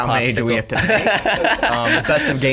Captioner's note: laughs